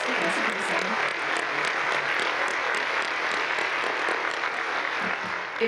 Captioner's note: audience applauds